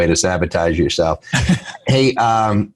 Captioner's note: laughs